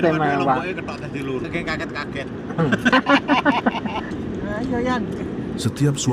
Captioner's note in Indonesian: tertawa